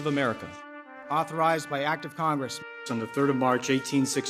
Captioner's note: voiceover